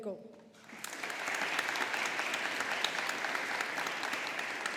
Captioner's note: audience applauding